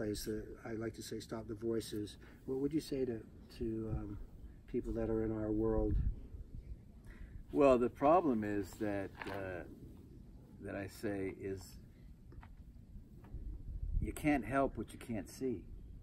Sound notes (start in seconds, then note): none